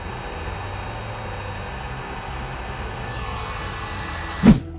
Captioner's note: heater whirring